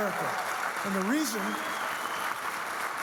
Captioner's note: audience clapping